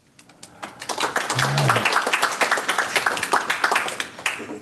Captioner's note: applause